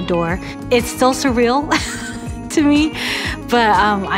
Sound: laughs

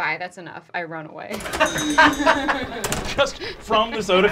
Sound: door slamming

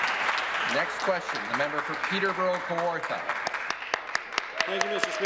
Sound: applause

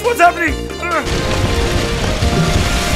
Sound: burning

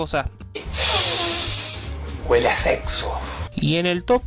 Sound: inhales

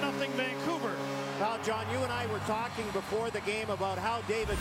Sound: cheers, applause

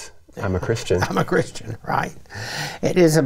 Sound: laughing

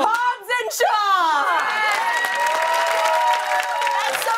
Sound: cheers and applause

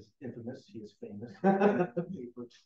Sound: laughing

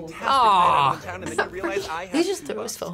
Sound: laughs

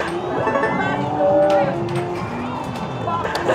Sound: game chimes

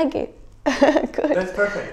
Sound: giggles

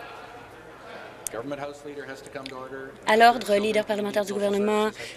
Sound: conversation din

